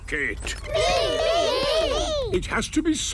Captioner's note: calling out in turn